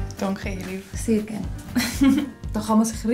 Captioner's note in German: lacht